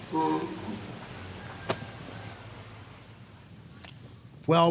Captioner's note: tortoise grunting